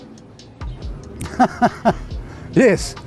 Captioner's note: laughs